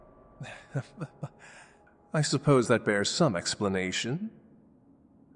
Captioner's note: soft laugh